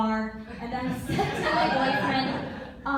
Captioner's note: laughter